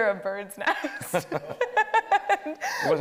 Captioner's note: laughing